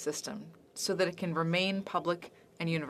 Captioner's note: speaking French